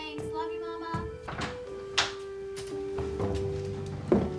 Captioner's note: door opening